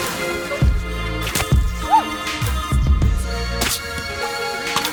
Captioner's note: water splashing; rocket shooting